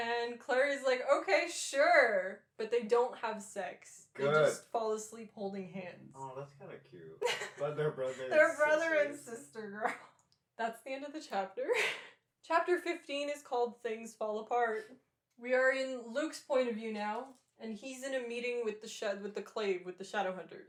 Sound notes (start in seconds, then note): 7.2 laughter